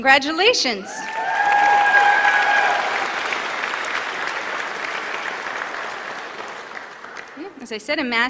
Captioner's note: applause